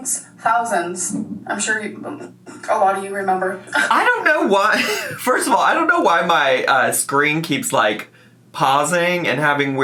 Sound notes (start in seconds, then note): 3.5 laughs